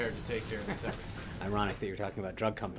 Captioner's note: laughter